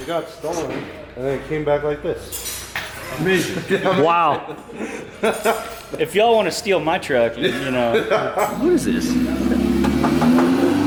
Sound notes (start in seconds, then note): 2.5 laughing; 7.4 laughing; 9.8 tapping